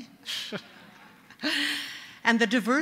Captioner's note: laughter